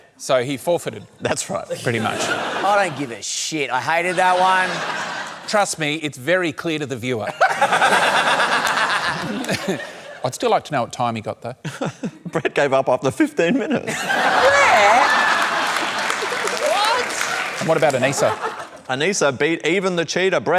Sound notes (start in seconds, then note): 7.4 laughs; 13.8 laughter